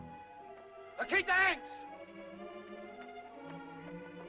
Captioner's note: dramatic music; Tumak shouts in caveman language; tense music